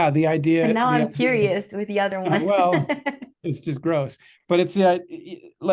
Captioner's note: risos